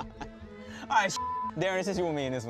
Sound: beep

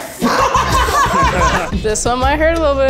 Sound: everyone laughing

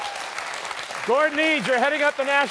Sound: cheers and applause

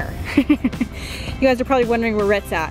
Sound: laughing

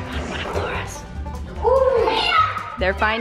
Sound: whisper

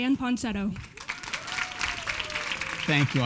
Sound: applause

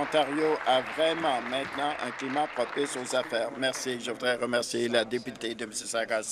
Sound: applause

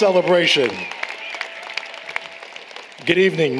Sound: applause, Cheering

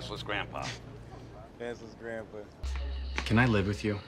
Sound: laughs

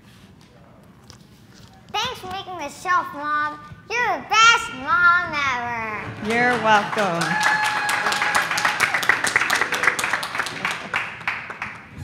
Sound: applause

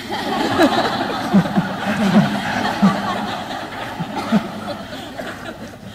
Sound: laughing

